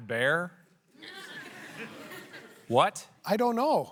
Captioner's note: laughter